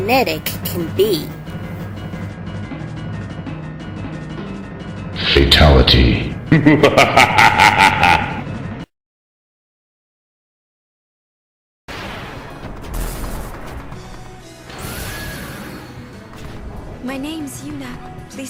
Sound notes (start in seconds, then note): 10.3 Kahn laugh